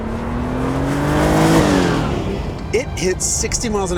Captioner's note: engine revs